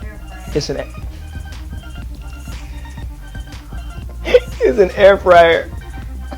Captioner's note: laughs